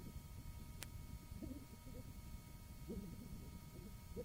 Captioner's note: crying; coughing